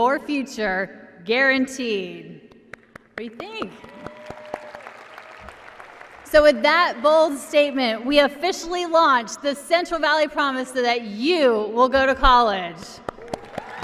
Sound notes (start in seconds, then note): 3.4 applause